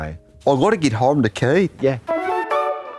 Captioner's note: Australian accent